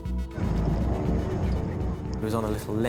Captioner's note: intense music; boat droning